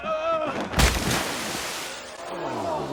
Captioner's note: splash